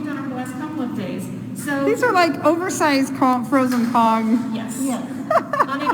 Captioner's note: laughter